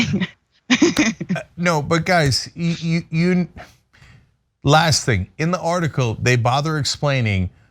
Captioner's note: laugh